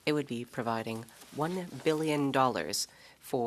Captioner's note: speaking French